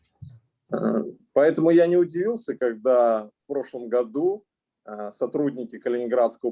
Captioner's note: speaking Russian language